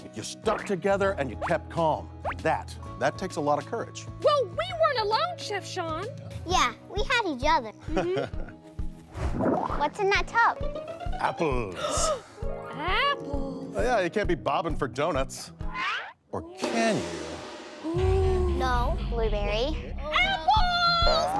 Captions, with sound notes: You stuck together and you kept calm. That. That takes a lot of courage. - Well we weren't alone, Chef Shawn. - Yeah. We had each other. (laughs) - What's in that tub? - Apples. - (gasps) Apples. - Yeah. You can't be bobbing for donuts. Or can you? - Ooh. - No, Blueberry. - Apples!